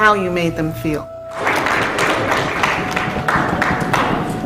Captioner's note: clapping